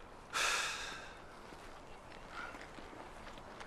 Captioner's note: sighs